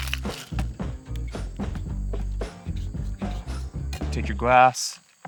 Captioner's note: ice clinking